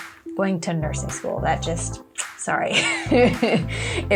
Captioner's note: laughs